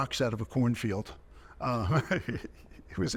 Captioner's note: chuckling